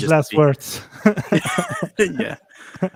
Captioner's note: group laughs